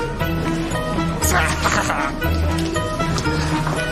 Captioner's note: Chicotește